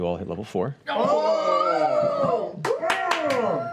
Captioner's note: cheering